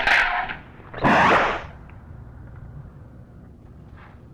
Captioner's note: door whooshes